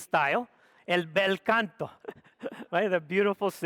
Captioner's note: speaks foreign language